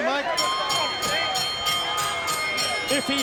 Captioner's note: bell ringing